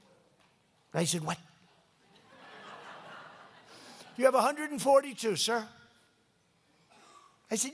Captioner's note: laughter